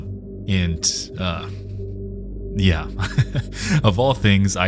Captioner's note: laughs